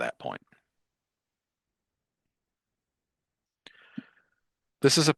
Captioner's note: silence